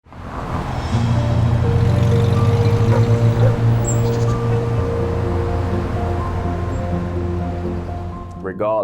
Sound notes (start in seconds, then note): 1.6 truck passing, dog barking; 5.3 bird chirping, street noise